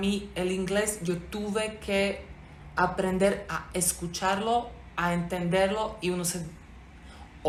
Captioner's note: spoken english